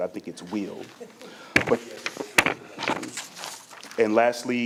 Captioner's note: microphone feedback garbling voice